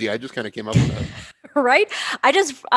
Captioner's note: laughs